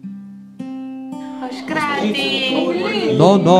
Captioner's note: chatter